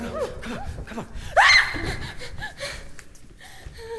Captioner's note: distant screams